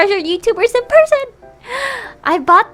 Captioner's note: deep breath